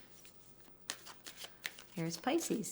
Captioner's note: cards shuffling